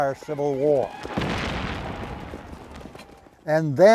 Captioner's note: explosion booms